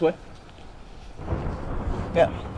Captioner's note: thunder